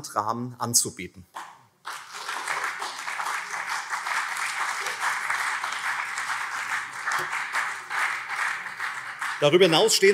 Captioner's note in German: Beifall CDU und SPD